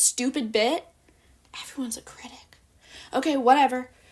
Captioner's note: whispered